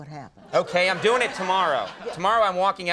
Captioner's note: laughing